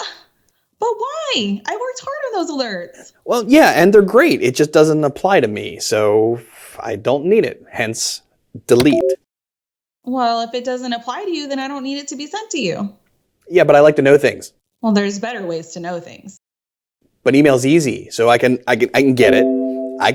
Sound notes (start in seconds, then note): 8.7 message blips